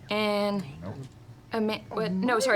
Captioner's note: quietly